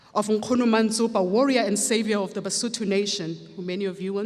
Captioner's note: speaks foreign language